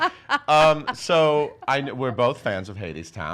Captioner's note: laughing